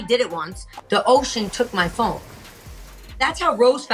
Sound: waves crashing

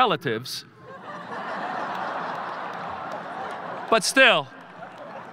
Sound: audience laughing

